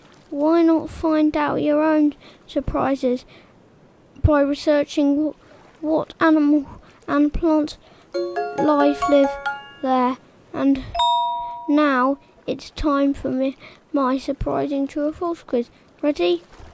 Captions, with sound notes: Why not find out your own surprises by researching what animal and plant [SHORT PINGING MELODY] life live there. [PING] and now it’s for me, my surprising to a forth quiz, ready?